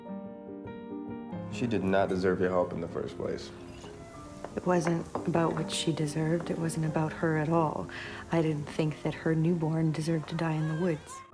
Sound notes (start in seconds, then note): 1.6 voiceover